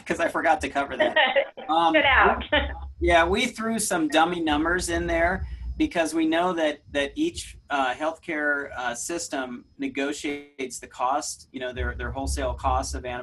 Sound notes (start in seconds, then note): 0.9 laughs